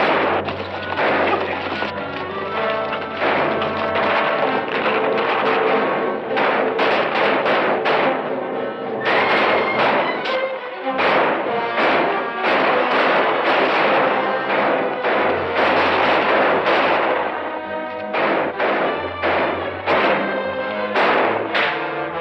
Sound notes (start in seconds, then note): 0.1 tense music; 6.2 gunfire; 17.9 tense music continues